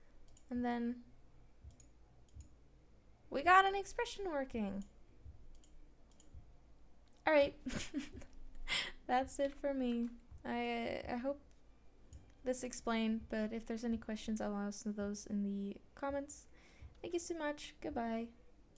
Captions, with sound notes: and then we got an expression working! Alright *snickers* That's it for me. I hope this explained but if there is any question I will be answering those in the comments! Tysm! Goodbye!